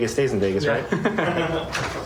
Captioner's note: laughter